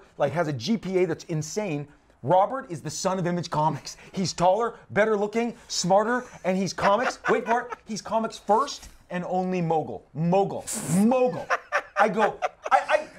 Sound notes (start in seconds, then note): 6.1 chuckles; 10.9 laughs